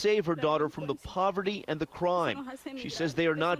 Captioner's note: speaking a foreign language